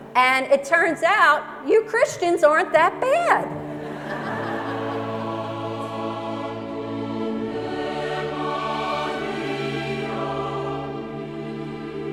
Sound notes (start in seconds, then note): 3.7 laughter; 5.2 choir music